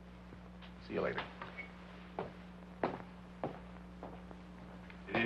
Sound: footsteps banging

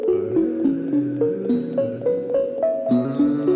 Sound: uuuuh

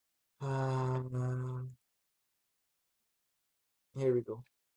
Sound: pause

